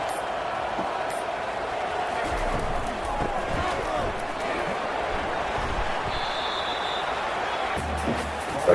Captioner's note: crowd Noises